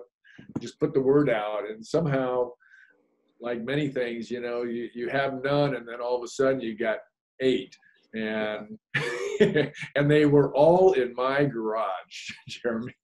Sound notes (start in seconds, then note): 8.9 laughs